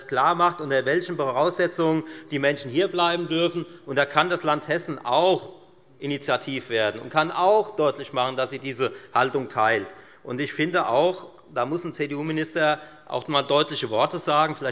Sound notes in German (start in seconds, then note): none